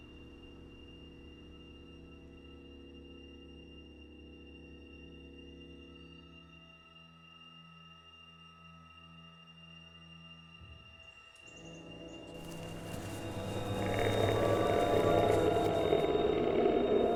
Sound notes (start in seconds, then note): 0.3 eerie music; 12.5 snarling